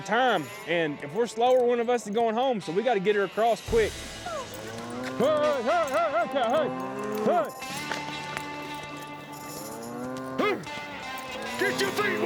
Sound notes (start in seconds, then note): 9.7 cow mooing